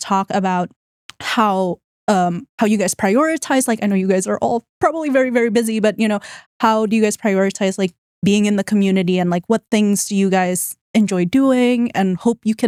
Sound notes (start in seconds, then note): none